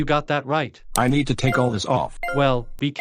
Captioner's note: beeping